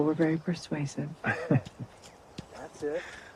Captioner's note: laughs